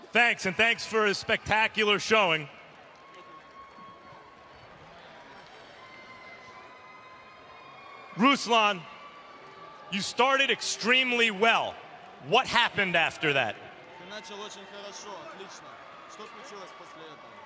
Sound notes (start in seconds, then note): 13.8 speaking foreign language